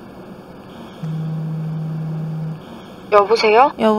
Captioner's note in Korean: 휴대폰 진동